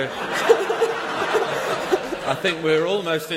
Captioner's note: laughter